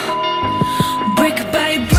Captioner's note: timer beep